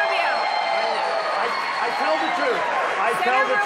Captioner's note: applause